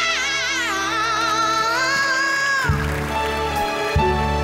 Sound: audience applauds; soft piano music

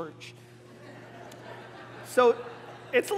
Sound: congregation laughing

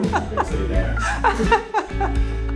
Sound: laughing

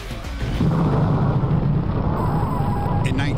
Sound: explosion

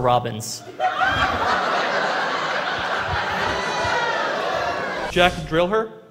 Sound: laughter

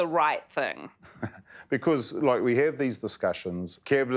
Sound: laughs

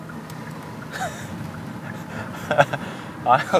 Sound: laughs by himself

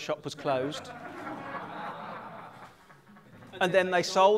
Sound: laughter

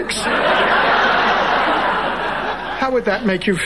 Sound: audience laughing

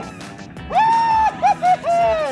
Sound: hoots

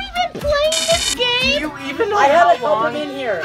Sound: buzzer buzzes

